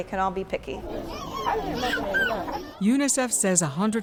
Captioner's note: child vocalizing